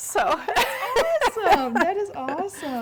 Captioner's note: laughing